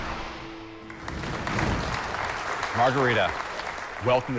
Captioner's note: applause